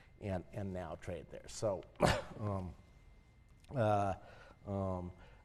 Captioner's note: cough